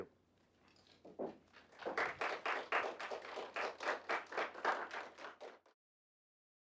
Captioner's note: applause